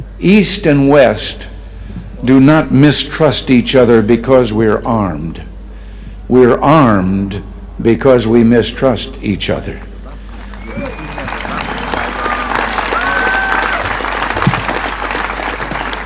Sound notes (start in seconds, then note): 10.0 crowd cheers and claps